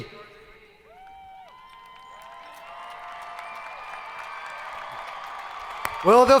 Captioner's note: people cheering; hands clapping